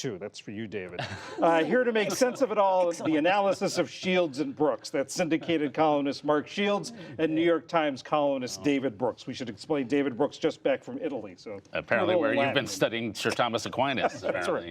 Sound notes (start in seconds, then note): 1.0 laughter